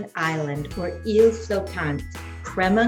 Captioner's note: foreign language